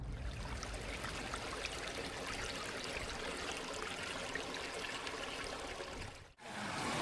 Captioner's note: running water sound